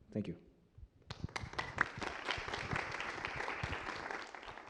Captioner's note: applause